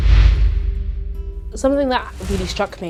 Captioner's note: air whooshing